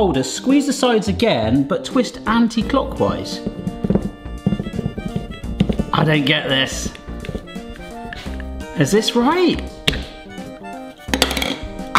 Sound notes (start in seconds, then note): 4.2 bottle rattling; 10.1 gentle music continues